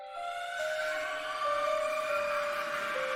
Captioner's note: screaming